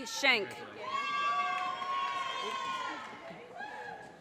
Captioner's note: audience cheers and applause